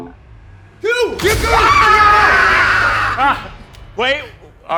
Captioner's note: cheering